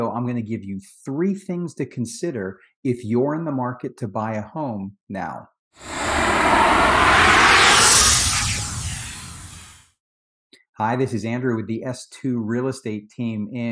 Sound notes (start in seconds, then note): 5.8 transition whoosh